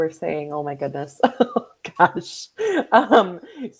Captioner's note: laughs